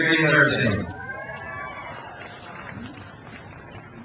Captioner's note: crowd cheers